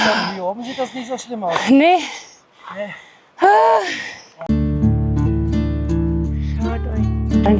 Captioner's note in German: japst